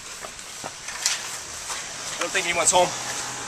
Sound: screen door opens

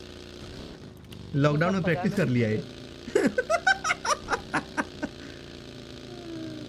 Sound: chuckles

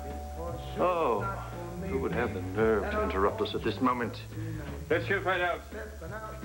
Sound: doorbell ngs

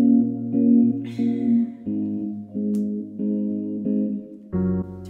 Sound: grunts

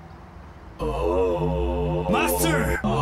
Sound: long uuhmmmm

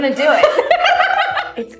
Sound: laughter

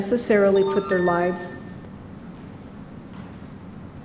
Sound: beep sound

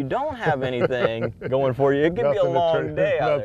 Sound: laughter

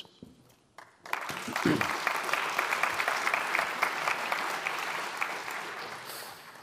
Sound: applause

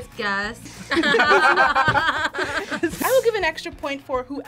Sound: group laughs

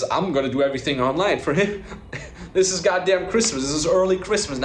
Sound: laughs

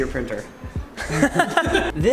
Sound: laughs

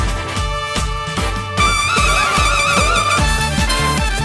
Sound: guy chokes on his trumpet

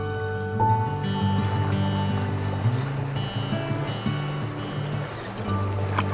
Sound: sound of splashing water

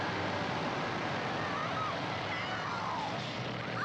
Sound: screams; screaming

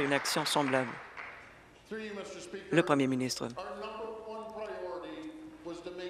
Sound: applause

